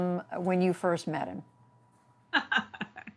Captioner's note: laughter